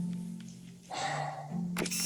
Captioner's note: sighs